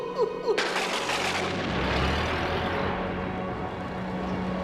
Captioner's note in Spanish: riendo; la caída de rayos